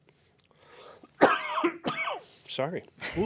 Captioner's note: coughing